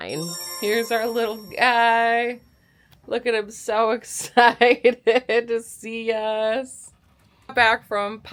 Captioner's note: laughter